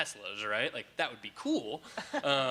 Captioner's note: laughing